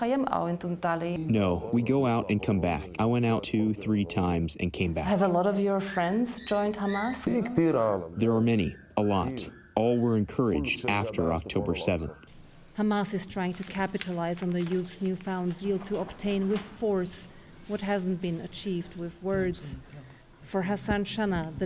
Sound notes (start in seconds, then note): 1.8 through translator; 8.8 through translator